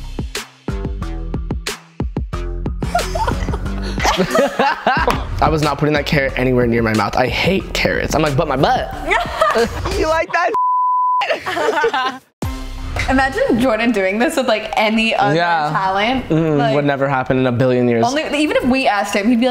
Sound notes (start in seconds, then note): 2.8 all chuckles; 9.0 laughs; 10.5 beep; 11.2 all laugh